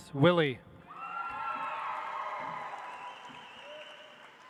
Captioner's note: audience applauds